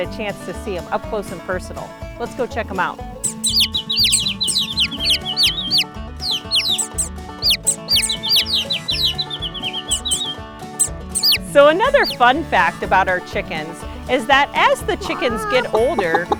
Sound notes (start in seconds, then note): 3.5 chicks chirp